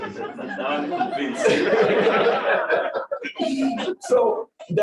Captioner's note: laughing